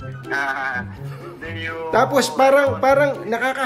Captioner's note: laughing